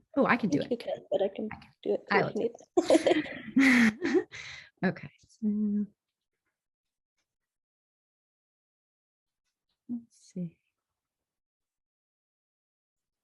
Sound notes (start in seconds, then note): 2.2 laughs